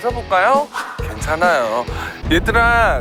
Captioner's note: swoosh